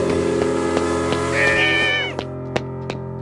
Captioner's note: disbelieving screams